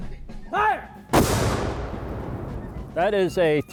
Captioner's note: cannon fires